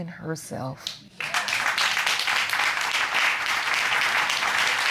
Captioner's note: audience applauding